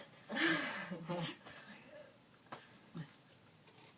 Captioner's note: laughs